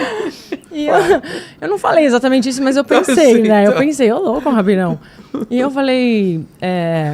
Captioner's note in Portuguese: risadas